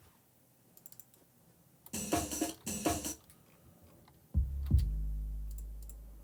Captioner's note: mouse and keyboard clicking